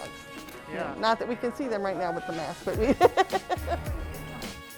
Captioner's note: laughs